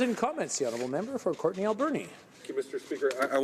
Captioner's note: some Applause